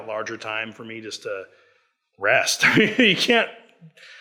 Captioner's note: laughs